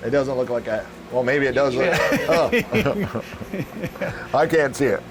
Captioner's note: laughing